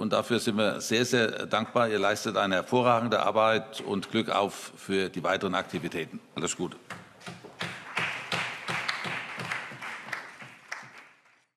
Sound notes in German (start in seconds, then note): 7.5 Allgemeiner Beifall